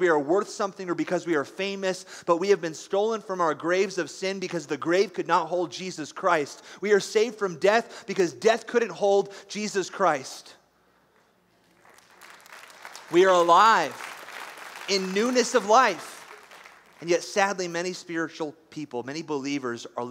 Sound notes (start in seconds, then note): 11.7 applause